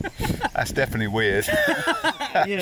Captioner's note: laughing